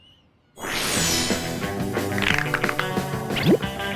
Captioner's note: cracks knuckles